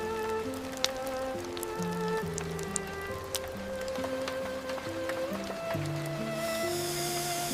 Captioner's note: cheese stretching as the quesadilla parts